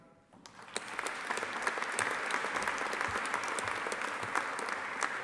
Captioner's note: audience applauding